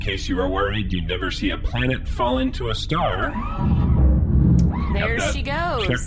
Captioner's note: distant boom sound